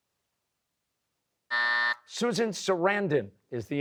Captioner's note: buzzer